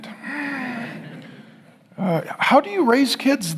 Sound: congregation laughing

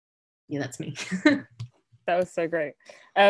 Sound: chuckles

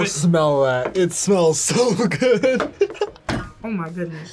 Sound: laughs

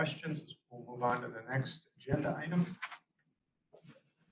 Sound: papers shuffling, chairs moving

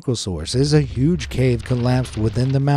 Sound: rocks falling

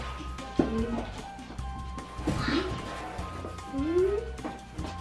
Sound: humming

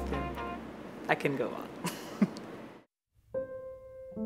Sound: chuckles

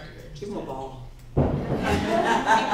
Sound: laughter

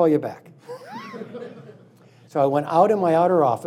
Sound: laughing

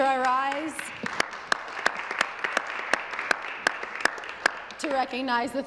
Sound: some Applause

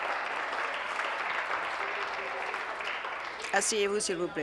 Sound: applause

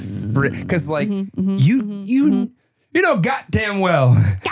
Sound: laughs

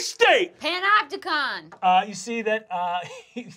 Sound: chuckling

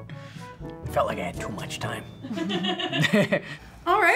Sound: FBE chuckles; chuckles

